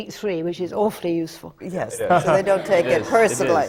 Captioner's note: laughter